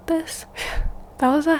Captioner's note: exhale